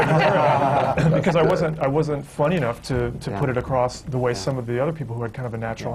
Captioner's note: laughter